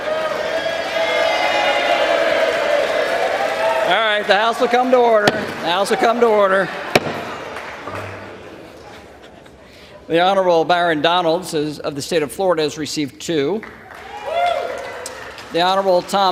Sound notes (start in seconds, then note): 0.0 applause; 3.1 applause